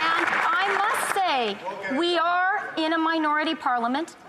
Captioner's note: some Applause